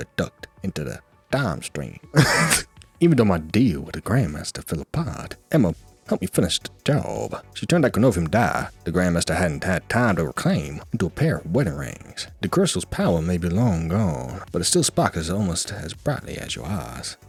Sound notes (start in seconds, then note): 2.1 laughs